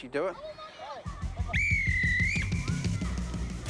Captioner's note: whistle blows